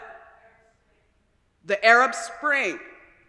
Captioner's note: crowd